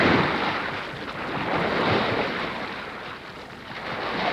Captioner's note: waves crashing